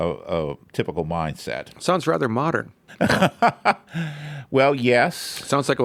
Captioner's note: laughs